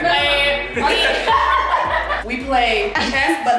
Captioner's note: guests laugh